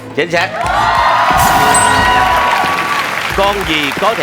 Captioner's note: clap